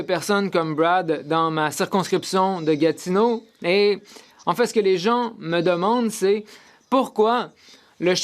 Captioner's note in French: voix de l'interprète